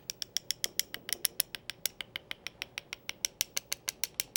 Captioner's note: knife tapping